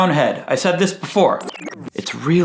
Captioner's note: tape rewinding